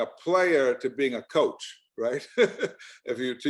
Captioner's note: laughs